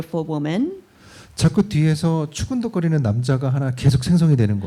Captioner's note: speaking korean